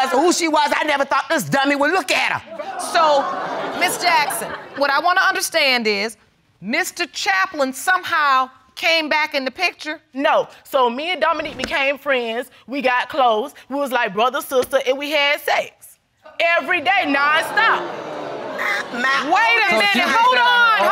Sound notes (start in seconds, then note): 2.6 audience laughs; 16.6 audience exclaiming; 17.2 stammering